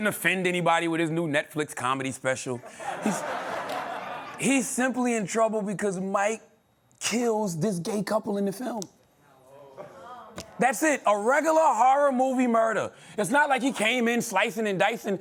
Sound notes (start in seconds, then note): 2.6 laughter